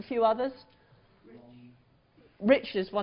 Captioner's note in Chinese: 無聲